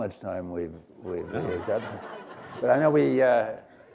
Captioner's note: laughter